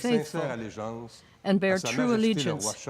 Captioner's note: speaking French